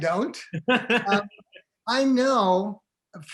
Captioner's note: laughing